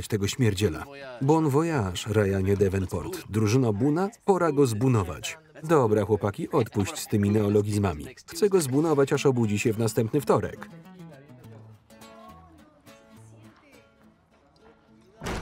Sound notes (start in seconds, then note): 10.9 speaking in Spanish; 13.2 singing in Spanish